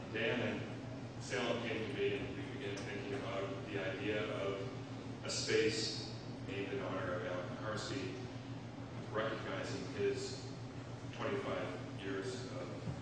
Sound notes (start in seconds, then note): none